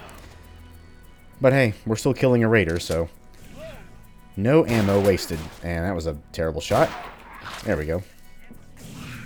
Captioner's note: bang